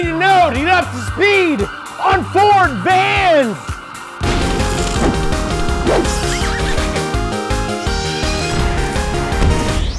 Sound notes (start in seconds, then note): 4.2 electricity sparking; 4.5 electronic music; 5.8 horse neighs